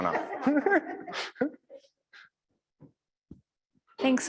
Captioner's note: all laughing